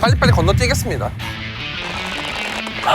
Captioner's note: gasp